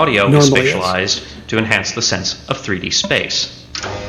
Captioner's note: voiceover